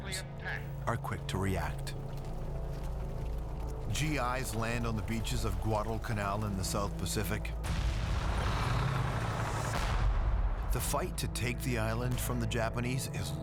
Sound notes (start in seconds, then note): 7.6 explosions